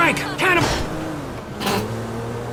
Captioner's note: bump